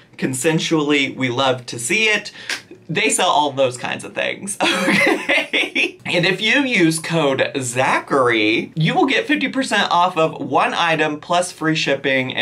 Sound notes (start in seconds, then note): 4.7 laughs